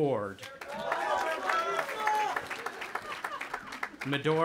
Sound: audience applauding and cheering

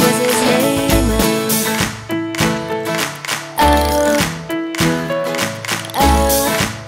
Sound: clapping

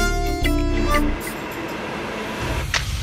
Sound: metro passing

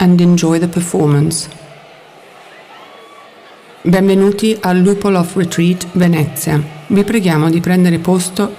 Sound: repeated in Italian; applause

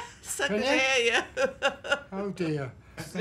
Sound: laughs

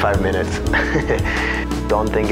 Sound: laughs

